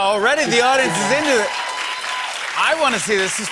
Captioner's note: cheers and applause